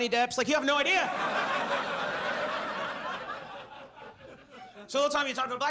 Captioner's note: audience laughs